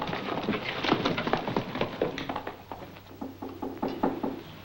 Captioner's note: hooves clopping; door knocking